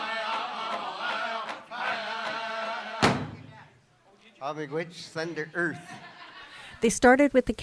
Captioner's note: laughter